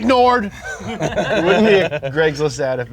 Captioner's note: both laughing